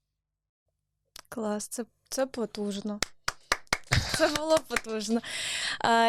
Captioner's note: claping